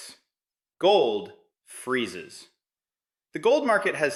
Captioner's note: emphasis